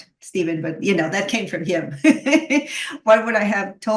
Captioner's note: laughs